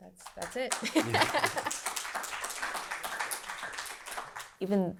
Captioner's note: applause